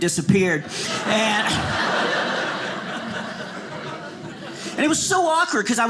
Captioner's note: audience laughing